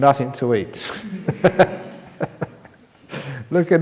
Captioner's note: laughs